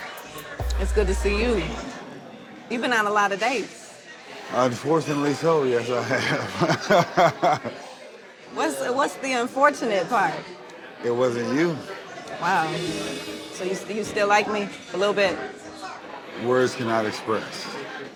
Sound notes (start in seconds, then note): 6.3 laughs